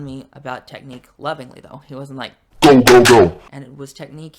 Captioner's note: deep voice filter